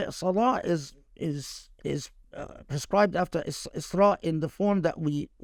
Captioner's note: speaking Arabic; speaking Arabic